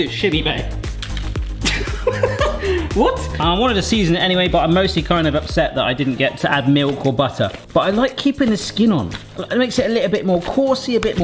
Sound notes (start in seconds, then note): 1.6 laughs